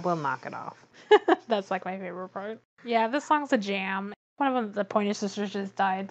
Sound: laughs

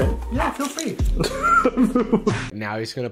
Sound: laughs

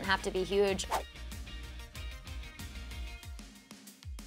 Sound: whooshing

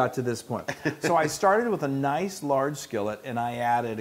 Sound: laugh

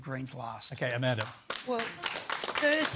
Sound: scattered applause

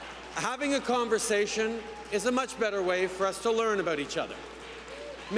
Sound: cheers

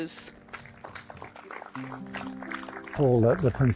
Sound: people clapping

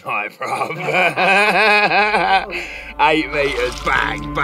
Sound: men laughing

